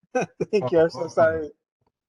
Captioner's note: laughing